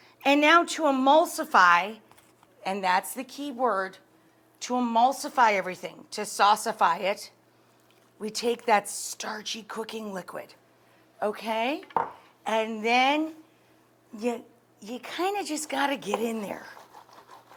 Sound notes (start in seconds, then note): none